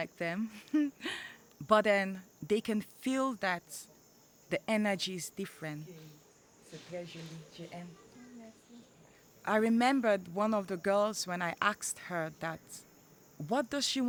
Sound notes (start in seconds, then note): 5.8 speaking french